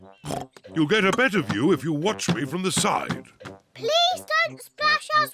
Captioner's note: oinks